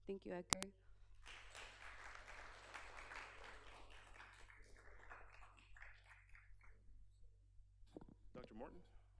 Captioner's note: applause